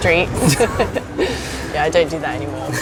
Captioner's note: laughing